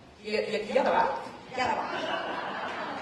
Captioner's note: laughter